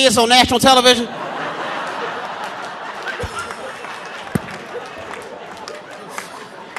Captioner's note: audience laughing; audience applauding